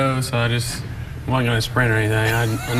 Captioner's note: laughing